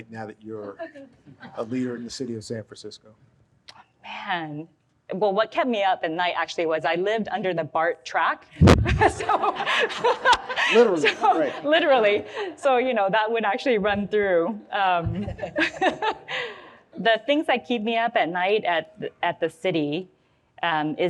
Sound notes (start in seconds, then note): 8.9 audience laughs; 16.2 laughs